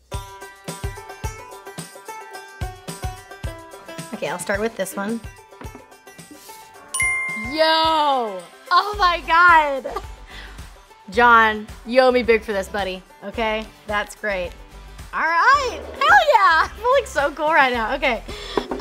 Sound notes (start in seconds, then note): 0.0 banjo music; 6.9 correct ding noise